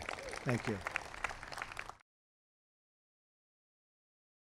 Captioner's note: applause